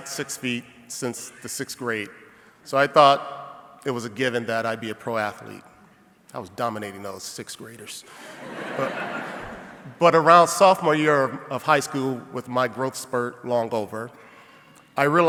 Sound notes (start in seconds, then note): 8.1 audience laughing